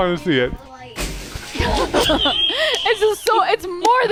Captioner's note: branches rustling